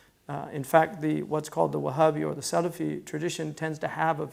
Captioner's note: foreign language